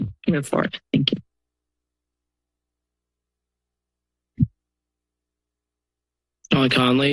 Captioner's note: silence